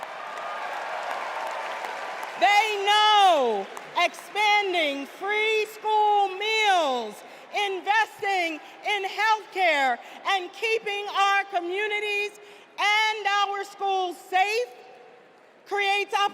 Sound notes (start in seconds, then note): 0.0 cheers and applause